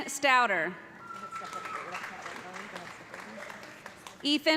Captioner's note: cheers and applause